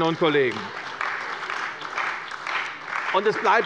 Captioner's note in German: Beifall bei der CDU und dem BÜNDNIS 90/DIE GRÜNEN